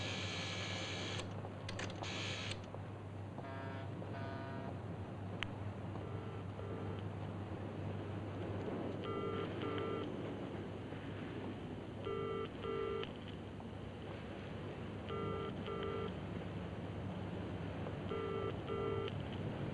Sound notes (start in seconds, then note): 0.0 phone dial cranking; 2.9 footsteps; 5.9 phone dial tone beeping; 8.9 phone dial tone beeping; 12.0 phone dial tone beeping; 15.0 phone dial tone beeping; 17.9 phone dial tone beeping